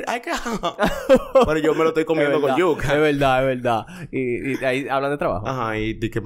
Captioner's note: laughs